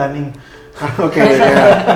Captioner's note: laugh